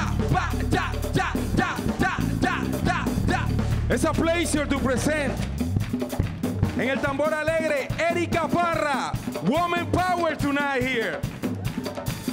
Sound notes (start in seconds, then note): 7.0 speaks in Spanish